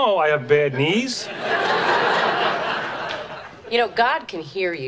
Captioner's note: audience laughing